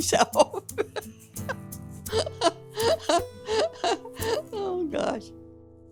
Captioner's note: laughs